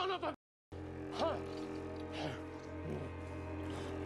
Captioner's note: panting